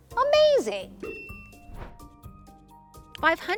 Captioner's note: bell dings; transition whooshes